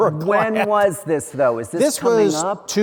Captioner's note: laughs